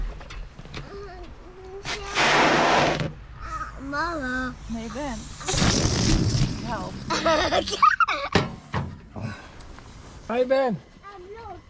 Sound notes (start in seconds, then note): 0.2 singing; 2.1 air whooshing; 5.2 balloon sputtering; 7.1 laughing